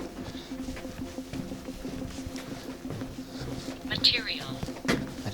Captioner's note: footsteps pattering